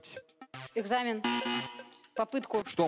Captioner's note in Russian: пи-пи